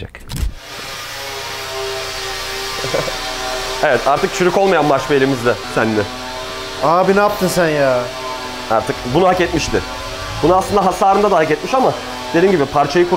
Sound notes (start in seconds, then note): 1.5 tool Sound